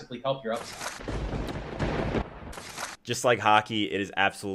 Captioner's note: lighting striking